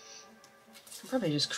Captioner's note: fabric ripping